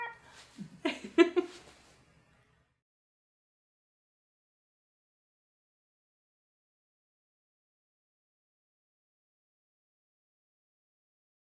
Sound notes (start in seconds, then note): 0.6 laughs; 3.3 no speech